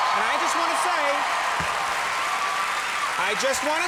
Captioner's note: audience applause